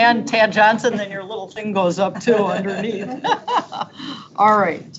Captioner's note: laughs